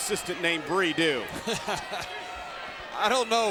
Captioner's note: John chuckling